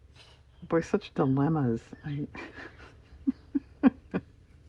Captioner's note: laughs